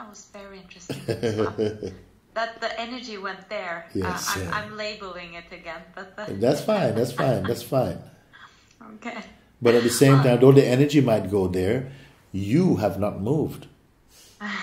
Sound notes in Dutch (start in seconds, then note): 6.3 lacht